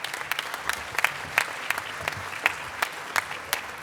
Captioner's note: applause